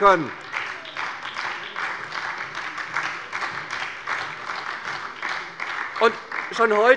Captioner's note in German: Beifall bei der SPD